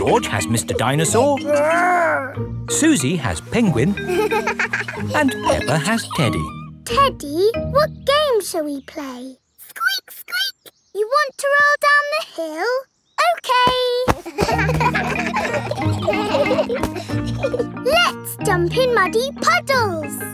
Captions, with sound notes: -George has Mr. Dinosaur... -Grr! -Suzy has Penguin... -(GIGGLES) And Peppa has Teddy. Teddy, what game shall we play? Squeak, squeak. You want to roll down the hill? Okay! (KIDS LAUGHING) Let's jump in muddy puddles!